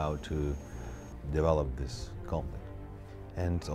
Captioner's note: none